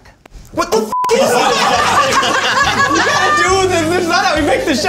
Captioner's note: dramatic music; all laughing